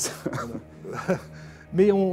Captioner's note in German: lacht